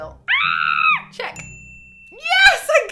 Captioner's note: screams; bell dings